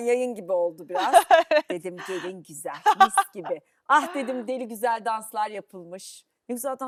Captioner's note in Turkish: kahkaha